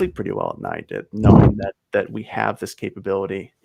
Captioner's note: chuckles